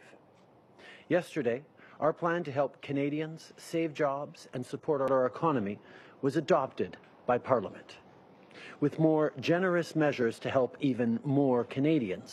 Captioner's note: speaking in French